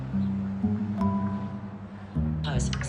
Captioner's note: phone notification ding